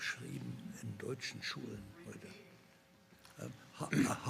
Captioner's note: whispering